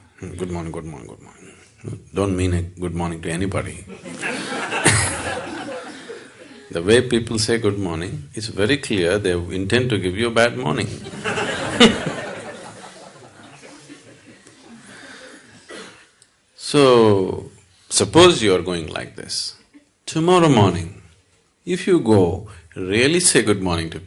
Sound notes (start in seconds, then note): 3.9 laughter; 13.8 laughter